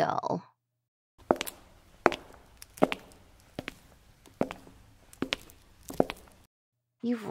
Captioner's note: brief footsteps clack